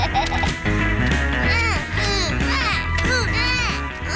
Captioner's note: snorts and laughs; both grunting